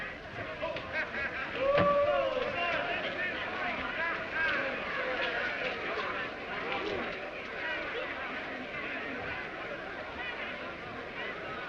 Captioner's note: inmates chattering indistinctly